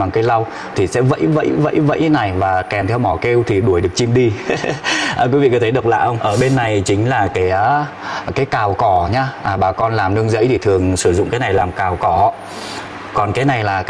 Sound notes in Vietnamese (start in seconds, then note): 4.3 tiếng cười